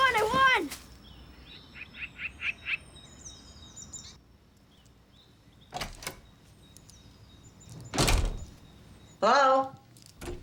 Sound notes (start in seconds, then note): 3.8 door opens; 7.8 door closes; 10.1 door opens